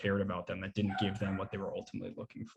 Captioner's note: dog barking